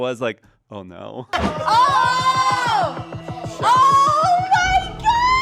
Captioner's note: everyone exclaims